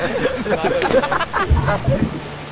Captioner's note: laughter